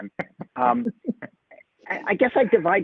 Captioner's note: laughter